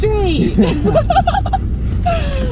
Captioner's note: both laugh